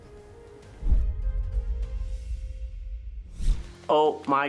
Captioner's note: logo swooshing